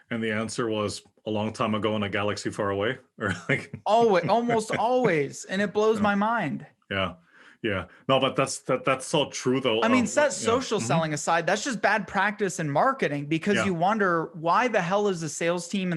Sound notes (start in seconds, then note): 3.2 laugh